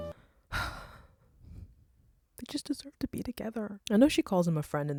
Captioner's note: sighs